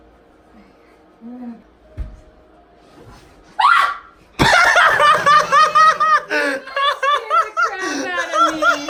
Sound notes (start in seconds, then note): 3.6 screams; 4.4 laughs